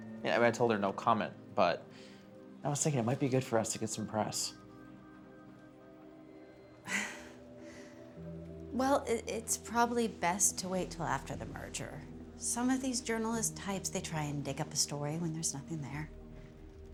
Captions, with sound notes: Yeah, but I told her no comment, but I was thinkin', it might be good for us to get some press. (laughs softly) - Well, it's probably best to wait till after the merger. Some of these journalist types, they try and dig up a story when there's nothing there.